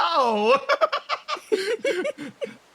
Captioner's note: laugh; laughs